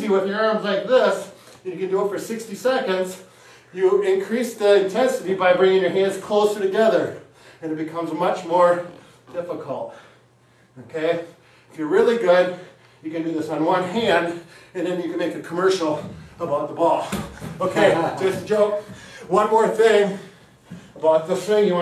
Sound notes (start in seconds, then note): 17.3 hand tapping; 17.6 chuckling